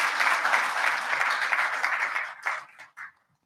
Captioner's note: applause